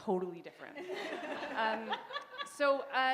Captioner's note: laughter